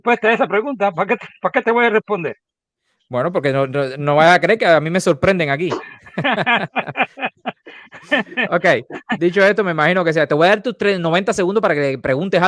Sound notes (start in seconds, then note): 8.3 laughs